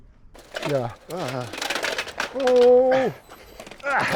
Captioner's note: grinding chain noises